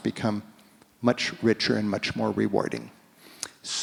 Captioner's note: none